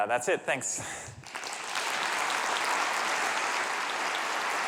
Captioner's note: applause